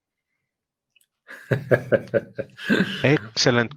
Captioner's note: laughs